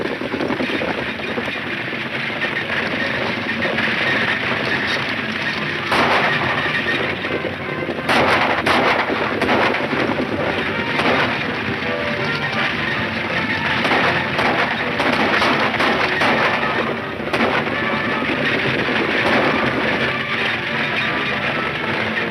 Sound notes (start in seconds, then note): 0.1 horses galloping; 5.8 shots fire; 12.8 dramatic music; 17.9 shots fire